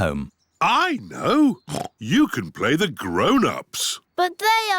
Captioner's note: oinks